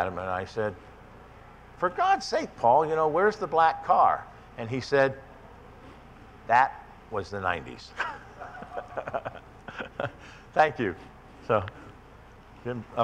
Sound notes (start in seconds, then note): 7.9 laughs